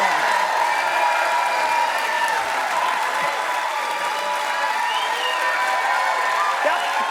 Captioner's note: cheers and applause